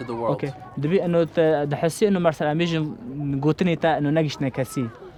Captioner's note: speaking foreign language